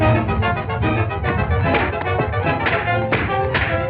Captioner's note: punches thudding